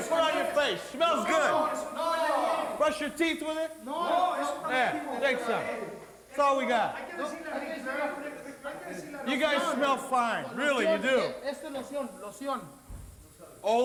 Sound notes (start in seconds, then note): 4.0 wrestlers speaking Spanish; 11.6 wrestler speaking in Spanish